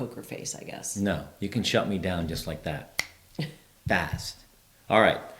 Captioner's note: snaps